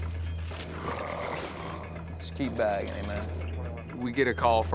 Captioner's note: gurgling